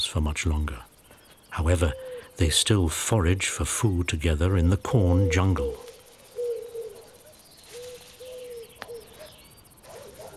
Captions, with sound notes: for much longer. However, they still forage for food together in the corn jungle. (owl hoots)